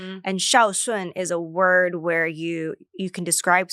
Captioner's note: speaks foreign language